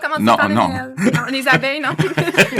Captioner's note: laughs